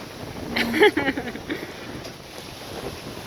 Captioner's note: laughs